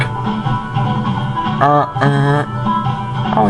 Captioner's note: horn honking